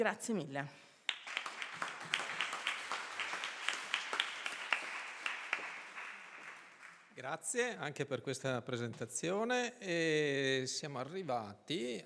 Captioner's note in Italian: Applauso